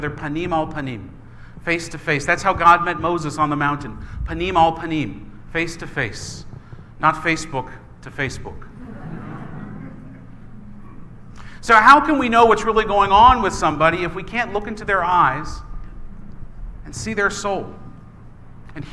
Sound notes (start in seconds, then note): 8.7 laughing